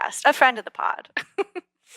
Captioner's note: laugh